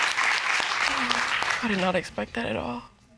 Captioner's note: sighs